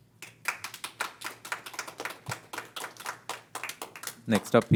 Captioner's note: crowd applauding